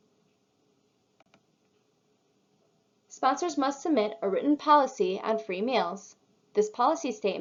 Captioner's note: click